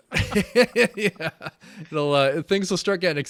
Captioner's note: laughing